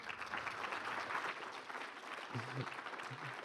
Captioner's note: applause